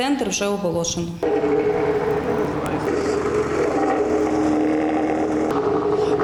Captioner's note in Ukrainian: звук техніки